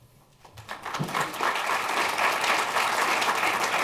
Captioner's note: applause